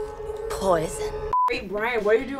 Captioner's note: monotonous high pitch sound